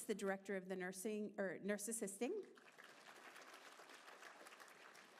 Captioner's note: applause